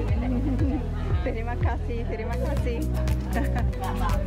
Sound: in Indonesian

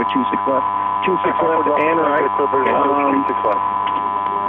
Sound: mixed transmissions

